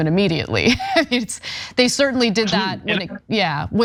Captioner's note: laugh